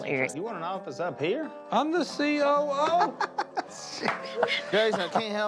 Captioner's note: Willie laughing